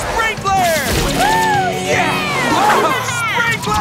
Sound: cheering

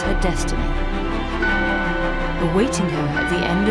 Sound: bell chimes

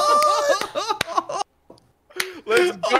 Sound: laughs

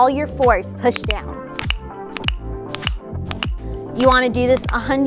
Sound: dummy clicks

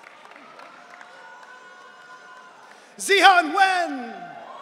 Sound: audience cheering

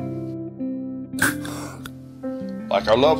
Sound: inhaler Puff Sound

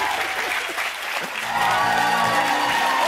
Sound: cheering

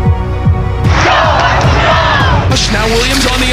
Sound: crowd

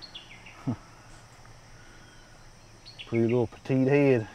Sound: scoffs

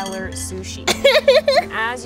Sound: laughing

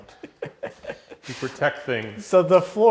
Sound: laughs

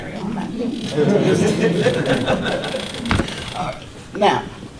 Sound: audience laughter

